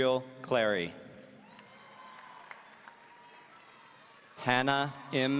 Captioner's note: audience cheering